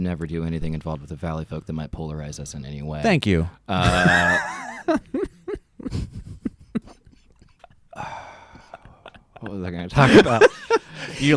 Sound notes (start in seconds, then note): 3.7 laughs; 7.9 sighs deeply